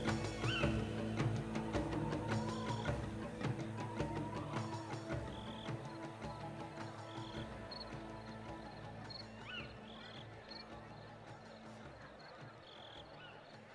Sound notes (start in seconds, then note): 6.2 birds chirping; 6.2 people chattering